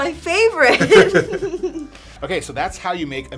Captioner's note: laughing